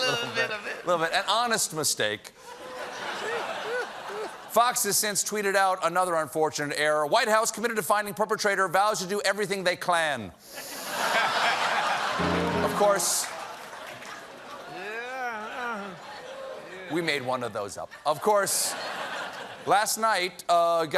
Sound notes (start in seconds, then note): 10.5 laughter